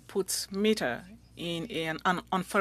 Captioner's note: speaking French